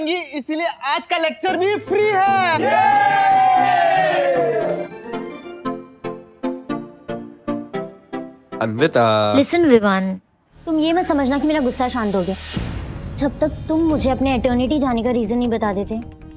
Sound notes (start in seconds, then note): 2.4 cheering